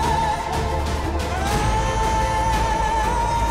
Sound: fire crackling

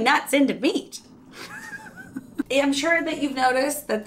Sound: laughs

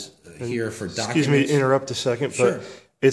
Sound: voiceover

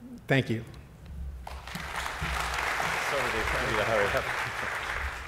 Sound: clapping

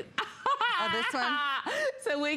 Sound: laughter

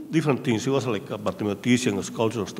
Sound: speaking in a foreign language

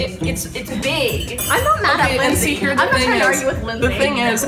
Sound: women chattering

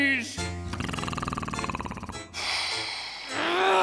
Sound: snoring; groaning

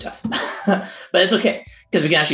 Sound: laughs

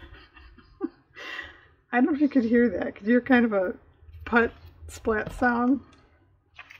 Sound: laughs

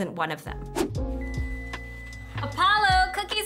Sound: timer beeps

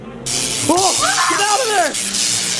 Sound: electricity crackling

